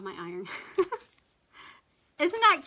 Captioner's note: laughs